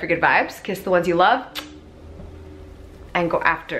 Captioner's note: kisses